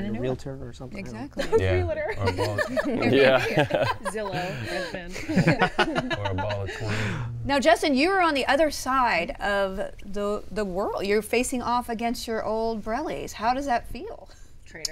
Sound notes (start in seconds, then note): 2.1 laughs; 5.1 all laughing